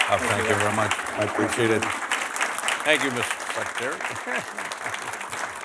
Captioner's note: applause